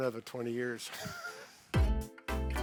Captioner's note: chuckles; bright music